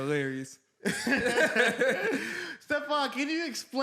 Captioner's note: laughs